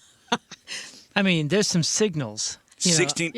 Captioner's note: laughter